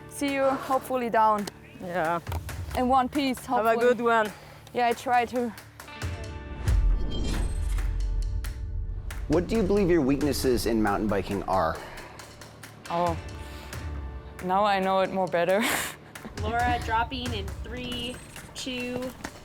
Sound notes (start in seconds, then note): 16.1 laughs